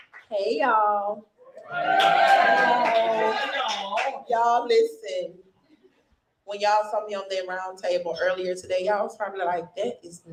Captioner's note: cheering and applauding